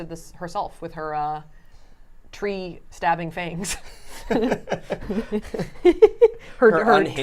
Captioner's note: laughing